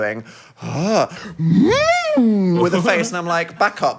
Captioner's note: vocalizes curiously